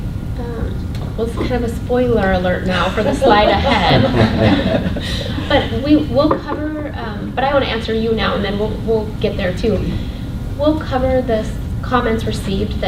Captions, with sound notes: - Well, it's kind of a spoiler alert now for the slide ahead, (laughter) but we'll cover, but I want to answer you now and then we'll get there too. We'll cover the comments received